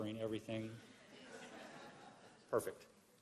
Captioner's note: laughter